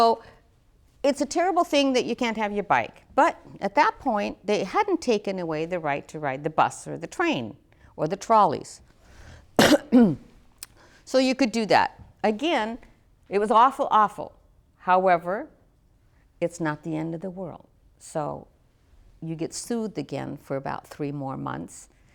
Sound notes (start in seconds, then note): 9.5 coughs